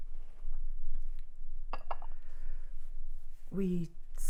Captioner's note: tableware clacking